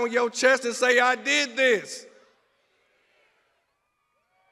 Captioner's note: crowd cheers